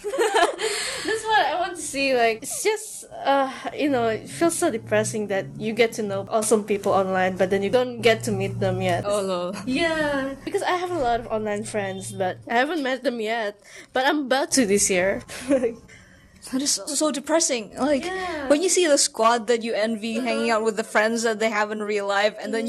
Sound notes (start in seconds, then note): 0.0 laughs; 15.3 giggle